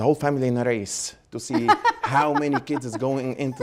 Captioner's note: Gingrich laughs